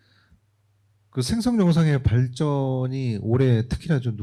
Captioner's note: speaking korean